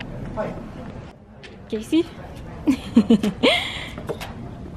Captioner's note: giggle